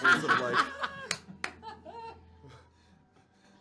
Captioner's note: laughter